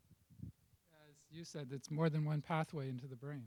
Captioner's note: voiceover